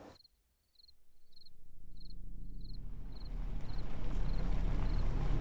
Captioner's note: crickets